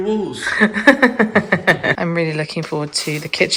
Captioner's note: laughs